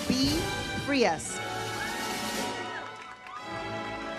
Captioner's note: audience cheers; uplifting music